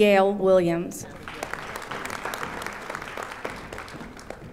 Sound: audience applauding

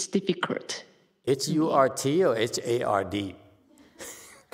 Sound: laughs

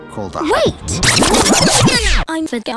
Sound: rewinding noises

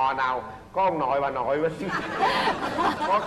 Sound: laughters

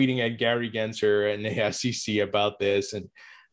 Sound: laughs

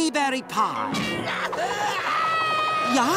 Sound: screaming

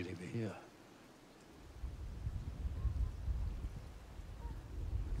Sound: thunder rumbling

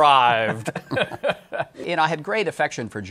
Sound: laughs

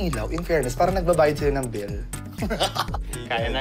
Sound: laughs

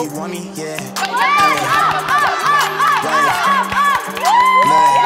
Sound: upbeat music; excited cheering

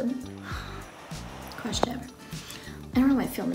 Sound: murmur

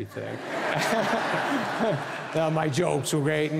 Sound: audience laughing

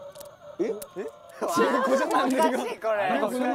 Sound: murmur

